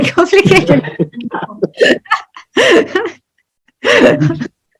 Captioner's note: both laugh